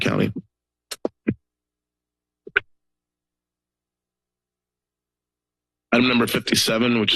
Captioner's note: silence